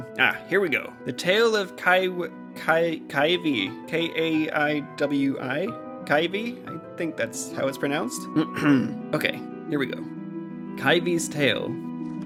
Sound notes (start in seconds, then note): 8.3 clears throat